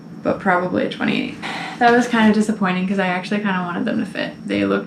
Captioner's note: sigh